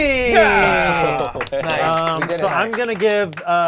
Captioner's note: overlapping chattering